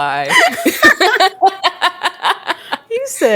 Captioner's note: both laugh